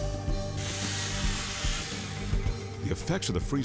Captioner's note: chainsaw buzzing